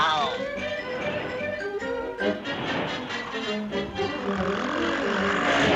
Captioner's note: vehicles whooshing